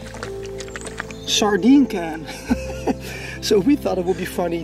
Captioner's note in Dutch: lacht